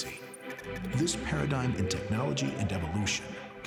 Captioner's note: computer whistling